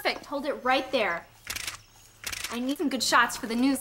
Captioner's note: camera shutter clicks